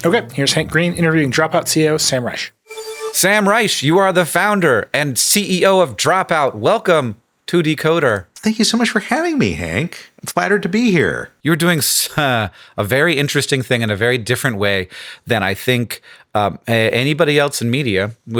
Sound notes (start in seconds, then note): 2.6 graphic beeps